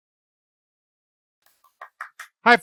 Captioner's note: claps